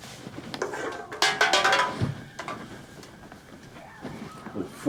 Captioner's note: beer can clattering